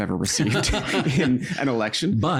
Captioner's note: laughing